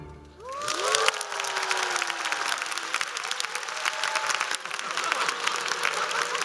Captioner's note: applause and cheers